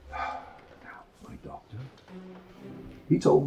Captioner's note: sighs